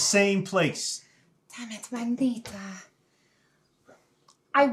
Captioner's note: speaking in foreign language